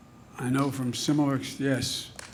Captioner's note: applause